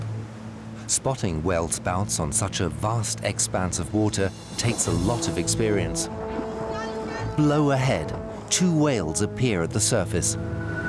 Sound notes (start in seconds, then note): 6.6 woman shouts; 10.7 excited conversation in Greek